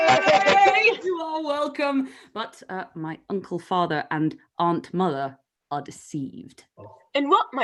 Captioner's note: cheer